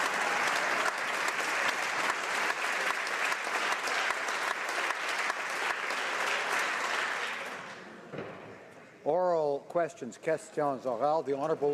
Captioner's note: applause